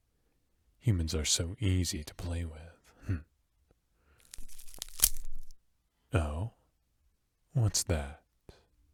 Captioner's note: stick breaking